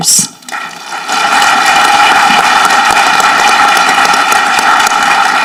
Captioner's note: audience clapping